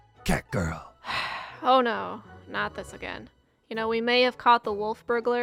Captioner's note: sigh